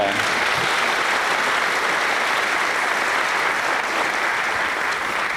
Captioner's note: applause